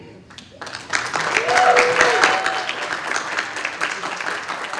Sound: cheers and applause

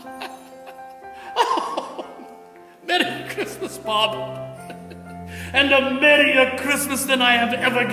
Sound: Scrooge laughs with joy

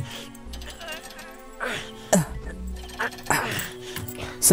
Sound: grunts

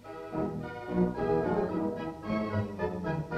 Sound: none

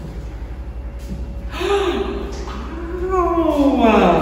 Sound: gasps loudly

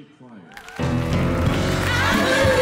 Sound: audience applauds

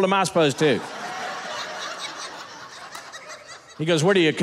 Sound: audience laughing

